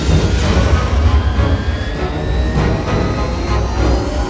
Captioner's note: engine roar